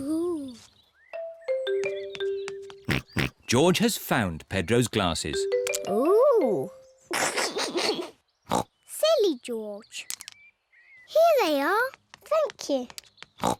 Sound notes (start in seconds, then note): 2.9 snorts; 7.1 laughs; 8.5 snorts; 13.4 snorts